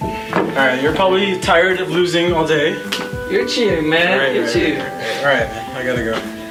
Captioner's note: laughing